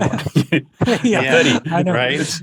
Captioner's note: all giggle